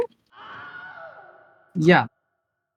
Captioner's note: The Wilhelm Scream